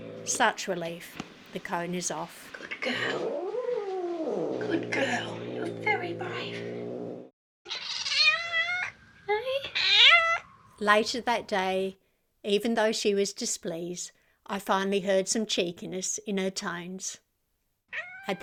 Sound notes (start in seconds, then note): 7.9 constant growling; 9.2 hissing